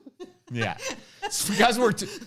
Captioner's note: laughs